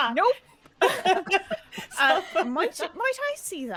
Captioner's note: all laughing